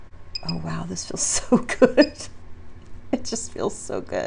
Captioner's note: laughs